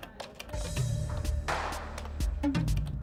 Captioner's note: computer keys click